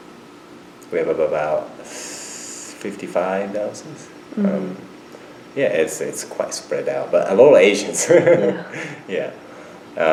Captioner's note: laughs